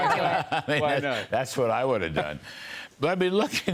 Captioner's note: laughter